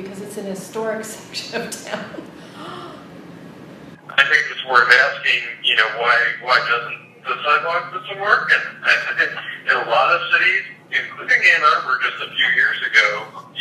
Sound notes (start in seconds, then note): 3.9 man's voice on phone